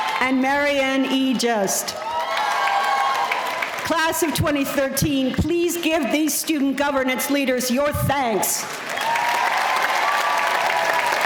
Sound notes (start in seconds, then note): 0.0 audience cheering; 1.9 audience cheering; 8.4 applause